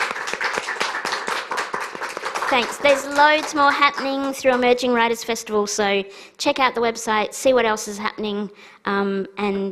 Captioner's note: applause